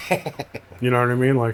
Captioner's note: laughing